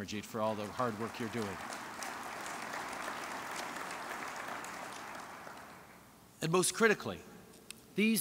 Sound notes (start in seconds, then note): 4.7 applause